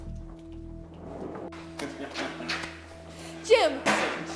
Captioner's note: Hawk laughing